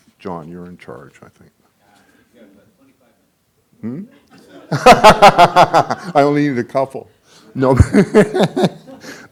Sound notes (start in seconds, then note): 4.4 laughing